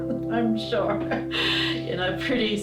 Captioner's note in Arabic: يضحك